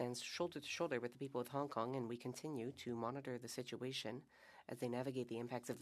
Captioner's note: speaking French